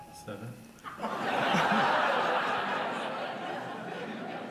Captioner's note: audience laughs